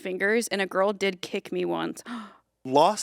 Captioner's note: gasps